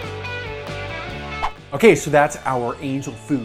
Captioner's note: whoosh